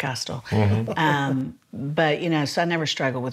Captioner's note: laughs